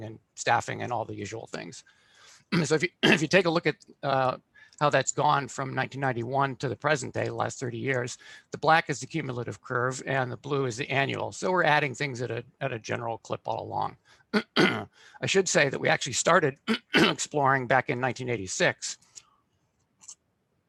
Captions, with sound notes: and staffing and all the usual things. So if you, if you take a look at how that's gone from 1991 to the present day, last 30 years. The black is the cumulative curve and the blue is the annual. So we're adding things at a general clip all along. [throat clearing] I should say that we actually started [throat clearing] exploring back in 1986.